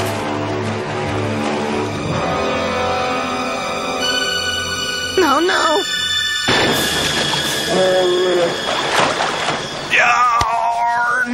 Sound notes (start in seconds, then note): 6.5 shot fired; 7.7 bear growling